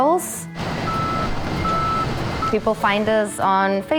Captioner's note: backup alert beeping